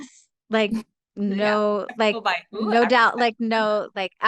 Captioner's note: speaking faintly